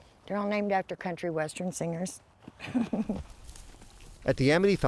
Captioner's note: laughs